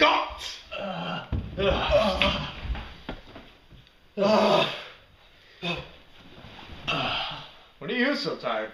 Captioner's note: dramatically groan